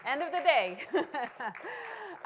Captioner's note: applause